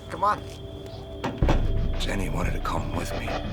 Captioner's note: banging